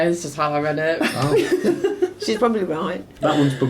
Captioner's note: laughing